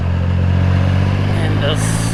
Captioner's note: engine Noise